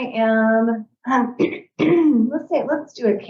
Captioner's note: throat clearing